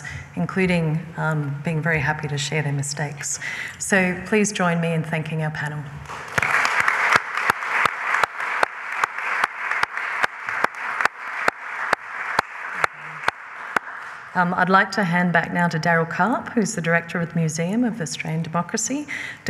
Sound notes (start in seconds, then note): 6.1 applause